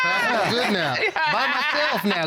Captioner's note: exclaiming